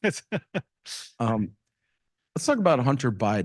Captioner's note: laughs